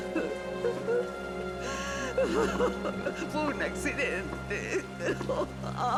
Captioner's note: crying